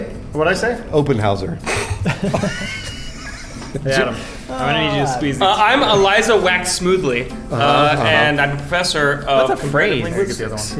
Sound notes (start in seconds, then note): 2.2 snorts